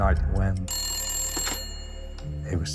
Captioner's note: phone rings